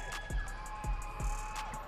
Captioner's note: audience cheering